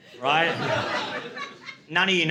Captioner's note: laughter